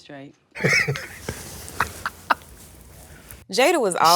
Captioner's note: chuckling